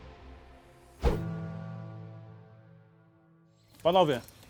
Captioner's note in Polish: pojedynczy, przejmujący niski dźwięk, odgłos cięcia powietrza